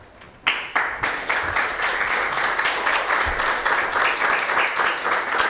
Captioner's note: audience applauding